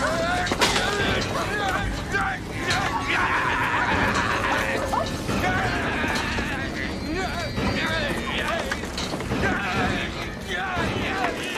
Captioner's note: angry noises